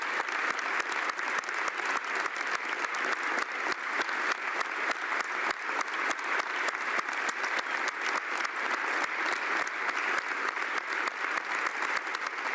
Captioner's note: applause